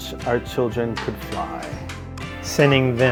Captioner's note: hammer bangs